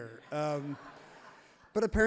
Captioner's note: audience laughs happily